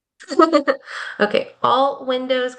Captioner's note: laughing